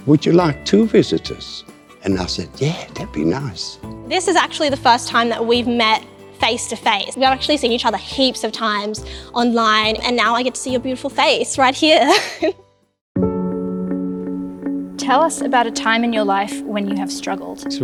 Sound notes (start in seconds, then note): 12.0 laughing; 13.2 dramatic music